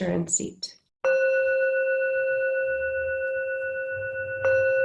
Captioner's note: bowl dinging